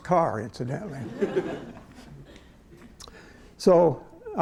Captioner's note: laughter